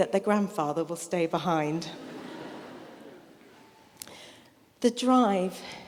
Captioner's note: audience laughing